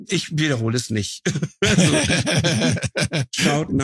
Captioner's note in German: Lachen